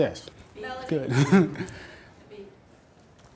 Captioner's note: voiceover